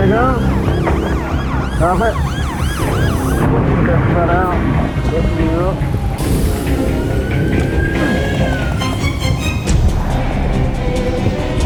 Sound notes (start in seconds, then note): 2.7 siren wailing; 5.2 trainer chattering; 6.7 siren wailing